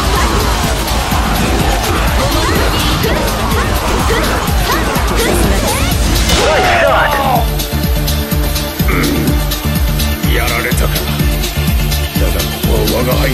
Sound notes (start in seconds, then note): 6.6 KO Scream